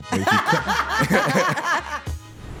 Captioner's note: all laughing; upbeat music